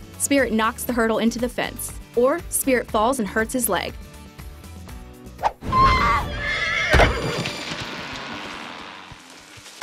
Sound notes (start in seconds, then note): 5.7 horse neighing